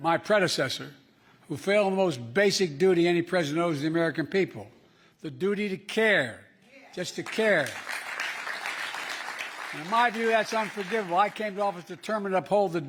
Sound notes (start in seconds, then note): 7.0 applause